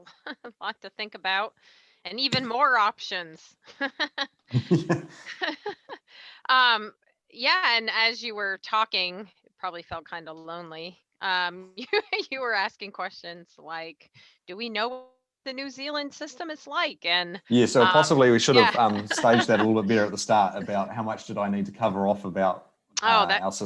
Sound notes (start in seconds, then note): 4.4 laughs; 11.7 laughs